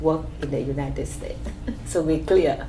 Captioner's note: laughs